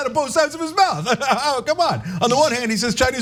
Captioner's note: laugh